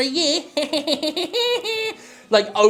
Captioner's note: laughing mockingly